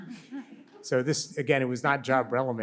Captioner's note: audience laughs